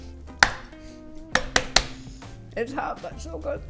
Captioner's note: hand thumping